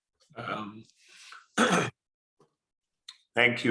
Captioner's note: coughing